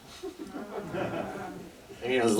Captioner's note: audience laughter